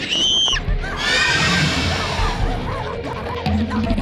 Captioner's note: screams; growling, snarling